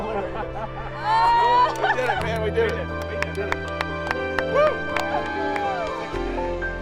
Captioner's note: clapping and slaps on the back